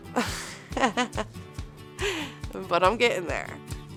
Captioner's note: laughing